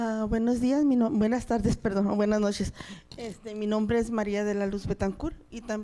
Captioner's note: audience member speaking in Spanish